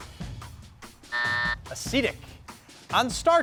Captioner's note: buzzer beeps